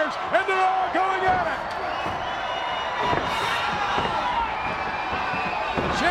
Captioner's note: blows thudding